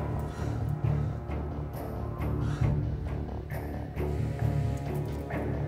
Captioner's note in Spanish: respiración alterada